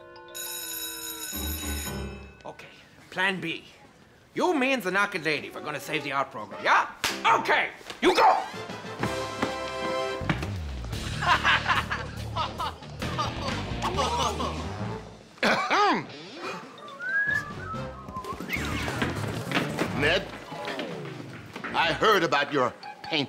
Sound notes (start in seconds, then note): 0.1 bell ringing; 11.1 laughing; 15.4 clearing throat; 16.8 whistling